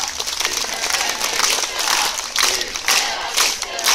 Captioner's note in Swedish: Applåder